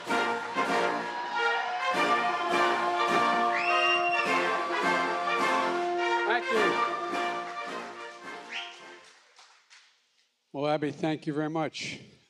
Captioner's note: cheers and applause